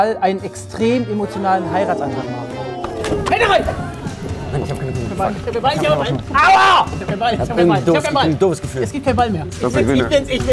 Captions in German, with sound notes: Hände rein! Ich hab keine Kugel (Stimmengewirr) Aua! - Ich hab keinen Ball. Ich hab ein doofes Gefühl. - Es gibt keinen Ball mehr.